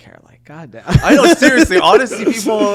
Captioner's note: Hyram giggling